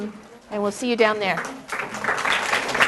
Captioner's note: applause